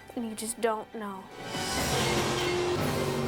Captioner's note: dramatic whoosh; boat buzzing; suspenseful music